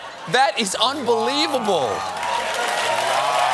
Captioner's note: cheers and applause